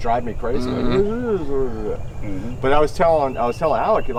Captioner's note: mumbling